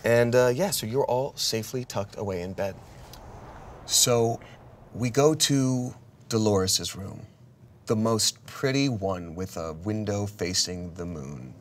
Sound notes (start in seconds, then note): none